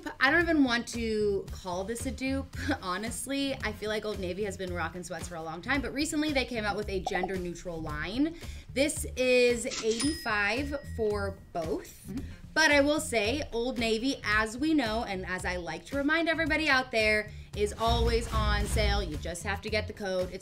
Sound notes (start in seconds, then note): 9.7 till rings